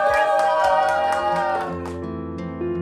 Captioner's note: cheering; bright music